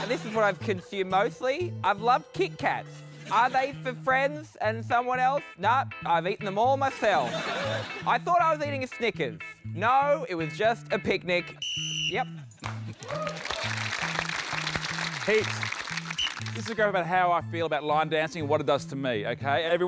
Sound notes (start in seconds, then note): 11.4 blows whistle; 12.6 applause; 16.0 blows whistle